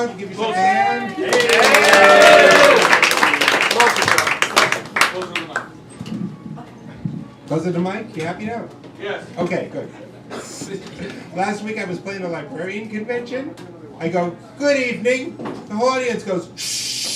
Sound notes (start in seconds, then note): 1.2 applause